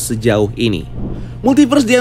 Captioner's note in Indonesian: suara transisi